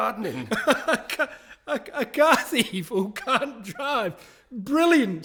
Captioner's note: still laughing